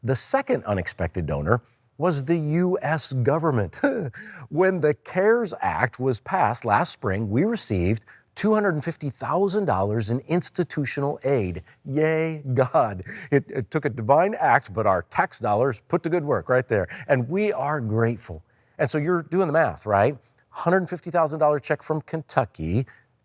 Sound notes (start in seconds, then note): 3.8 chuckles